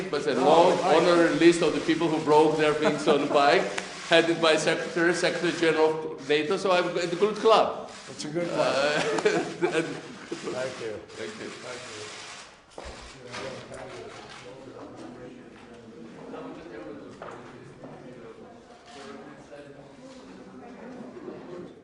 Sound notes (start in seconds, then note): 8.5 laughter